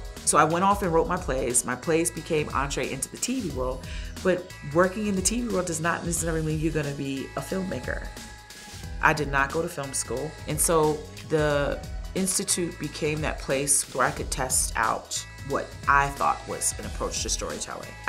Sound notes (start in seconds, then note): none